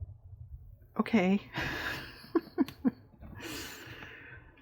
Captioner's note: laughs